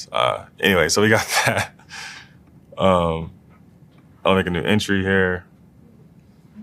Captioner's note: laugh